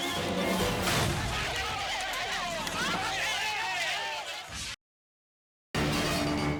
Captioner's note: frantic orchestral music; crowd shouting frantically; dynamic orchestral music